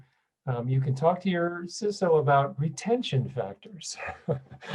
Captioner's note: laughs